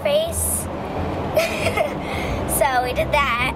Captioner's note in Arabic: يضحك